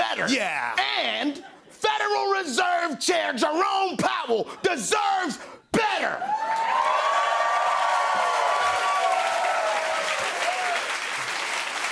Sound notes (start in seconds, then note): 6.2 cheers and applause